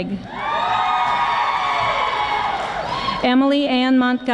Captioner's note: audience applauding